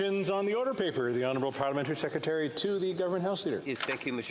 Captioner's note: speaking French